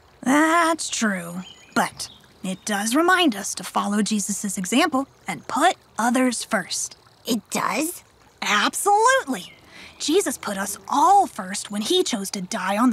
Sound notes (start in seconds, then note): none